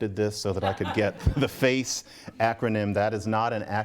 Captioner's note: laughter